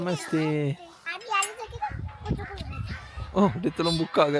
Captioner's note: speaking Nepali